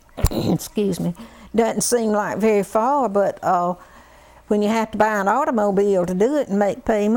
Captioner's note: cough